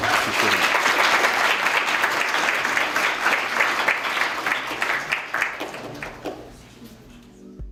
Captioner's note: applause